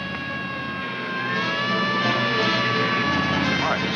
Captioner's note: siren blaring